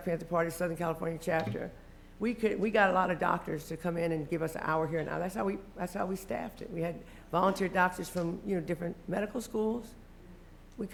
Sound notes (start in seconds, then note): none